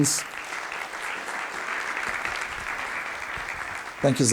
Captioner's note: applause